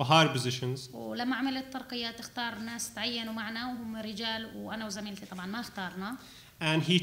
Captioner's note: speaking arabic